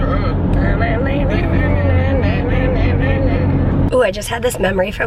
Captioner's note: both vocalizing